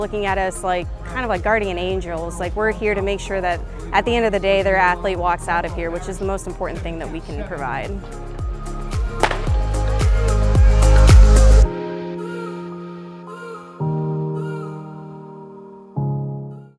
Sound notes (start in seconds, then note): 9.2 starter pistol pops; 10.6 audience cheers